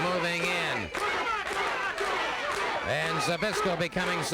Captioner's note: crowd chanting